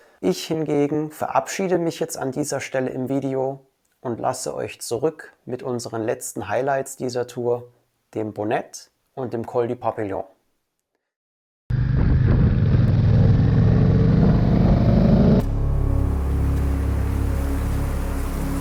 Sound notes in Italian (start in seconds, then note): 11.7 rumore di motore